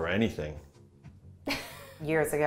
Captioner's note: laughing